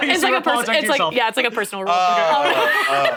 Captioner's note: laughs